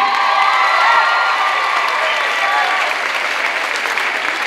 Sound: clapping and cheering

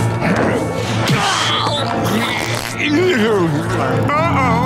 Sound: groaning

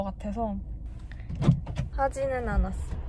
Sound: door open sound

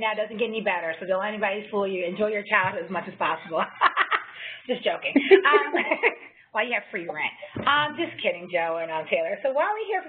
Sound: laugh

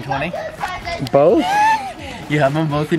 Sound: laughter

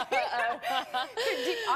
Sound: laughs

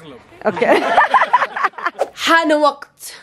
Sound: all laugh

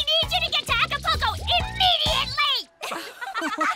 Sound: all laugh

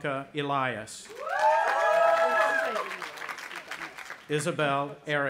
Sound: audience applauding; speaking faintly

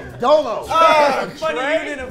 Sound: group laughs

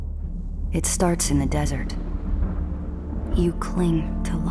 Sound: thunder

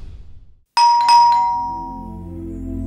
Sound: doorbell ringing

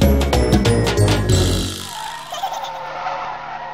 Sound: tires skidding; bumblebee truck giggles

